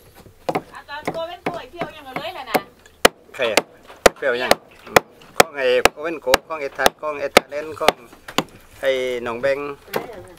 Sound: speaking in local dialect

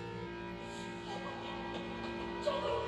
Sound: Tiffany echoing

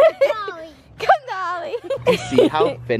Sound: laughing

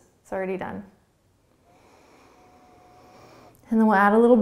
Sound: inhaling

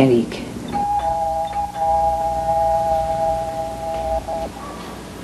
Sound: doorbell ringing

